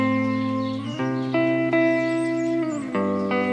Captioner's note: birds chirping; soft music